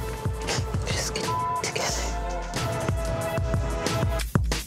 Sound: beep

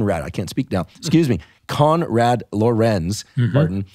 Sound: laughing

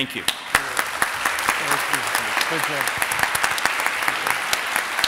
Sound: audience applauding

